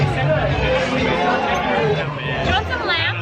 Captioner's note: crowd talking